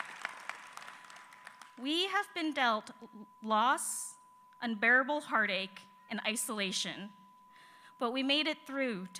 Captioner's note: applause